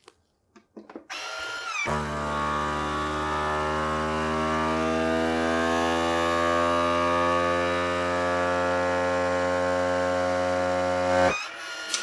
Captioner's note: vacuum sound